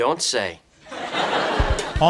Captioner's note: off-screen laughter